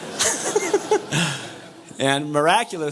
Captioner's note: laughs